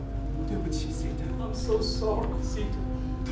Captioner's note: speaking in a foreign language